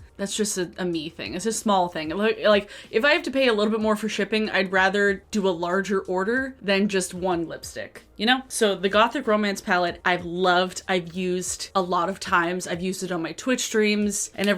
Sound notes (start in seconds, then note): none